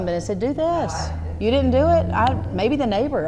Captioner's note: voiceover